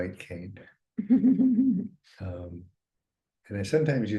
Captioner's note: chuckling